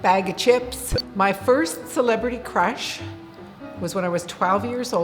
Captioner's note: beep